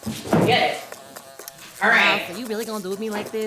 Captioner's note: fly buzzing